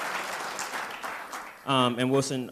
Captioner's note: applause